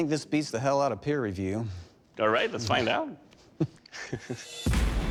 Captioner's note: chuckling; intense music playing